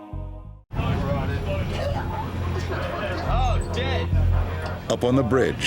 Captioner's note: crew chattering